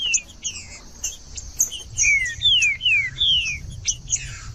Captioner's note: trinca ferro cantando